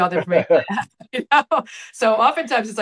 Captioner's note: laughing